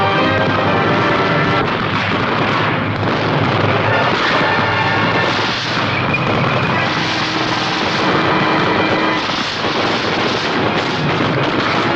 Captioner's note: gun shots